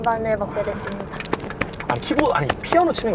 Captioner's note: applause